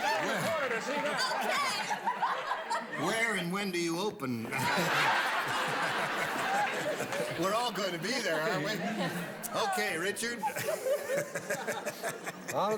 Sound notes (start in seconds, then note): 4.5 laughter